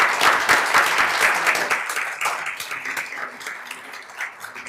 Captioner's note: attendees applauding